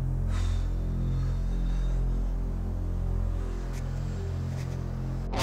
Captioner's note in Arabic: تنفخ الهواء